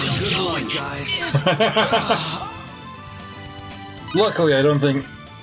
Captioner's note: laughs